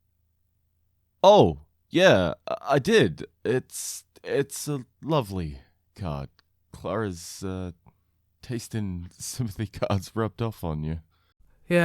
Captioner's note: chuckles